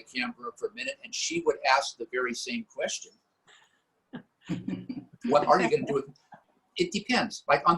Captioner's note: laughter